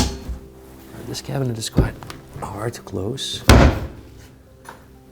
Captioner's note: cabinet door closes